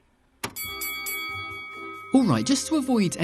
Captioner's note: dinging